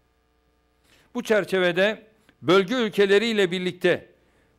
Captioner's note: non-english speech